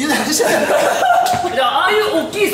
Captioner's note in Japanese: 笑い